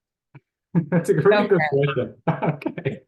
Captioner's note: both chattering